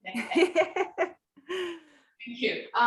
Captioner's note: laughter